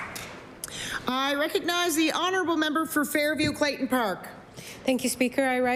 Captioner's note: applause